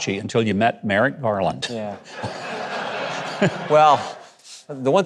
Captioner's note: audience laughing